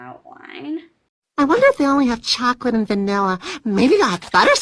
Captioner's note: gasp